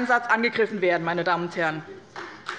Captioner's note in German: Beifall bei dem BÜNDNIS 90/DIE GRÜNEN, der CDU, der SPD und der FDP